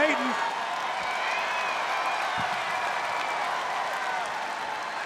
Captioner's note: crowd claps and cheers